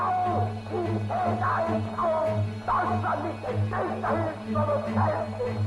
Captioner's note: yelling in German